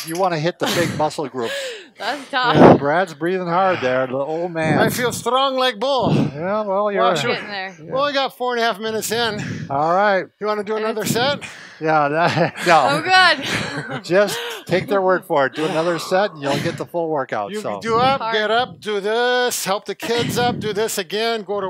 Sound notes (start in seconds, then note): 5.2 Russian accent; 11.9 laughs